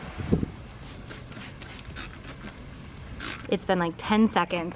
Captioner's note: spray bottle spritzing